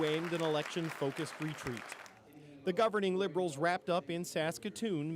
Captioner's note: applause